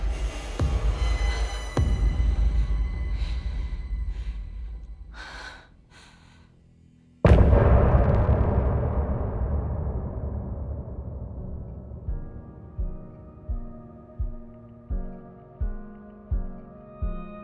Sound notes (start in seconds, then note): 2.0 sighs; 7.2 distant explosion